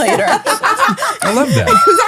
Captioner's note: laughing